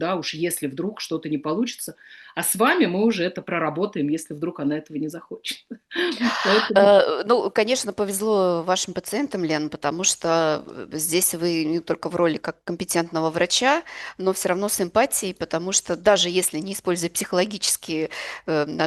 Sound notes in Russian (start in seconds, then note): 6.0 смех